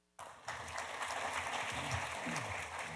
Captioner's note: applause